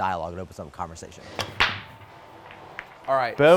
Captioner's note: pool balls click